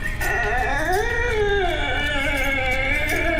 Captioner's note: Scott moaning